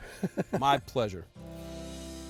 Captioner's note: laughs